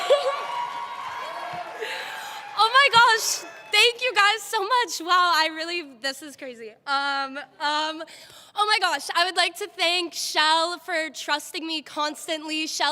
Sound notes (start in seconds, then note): 0.0 applause